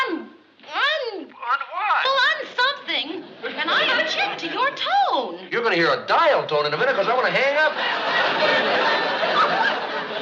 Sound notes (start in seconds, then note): 1.1 on phone